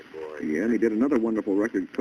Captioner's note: on phone